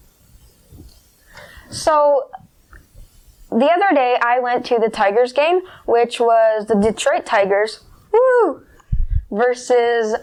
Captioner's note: whoo